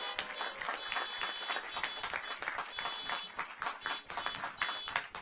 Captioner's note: audience applauds